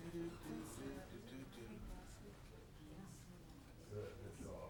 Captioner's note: people chattering distantly